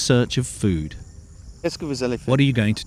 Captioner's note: speaking french